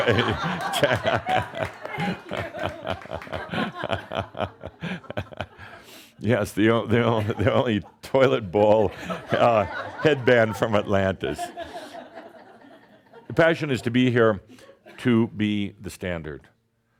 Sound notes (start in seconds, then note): 3.4 more chuckles; 5.1 laughing; 7.0 chuckling